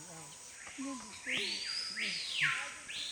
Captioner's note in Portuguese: Pássaros cantam